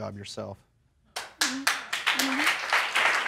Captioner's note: applause